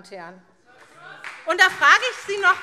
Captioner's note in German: Beifall SPD